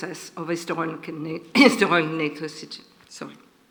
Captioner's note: coughs